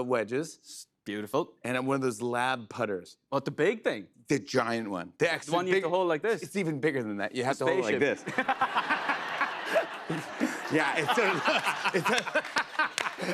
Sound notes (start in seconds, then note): 8.1 laughter; 12.0 laughs